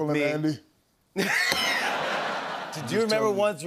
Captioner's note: laughter